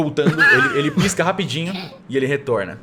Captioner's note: laughs